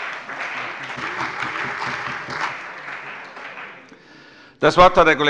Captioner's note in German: Allgemeiner Beifall